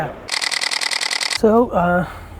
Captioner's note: camera shutter clicking